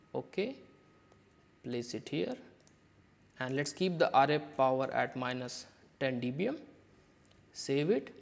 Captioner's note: click